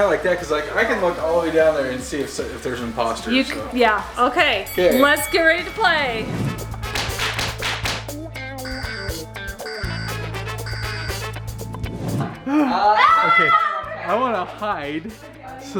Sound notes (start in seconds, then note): 6.6 alarm beeping; 6.6 upbeat music; 12.5 yelling in background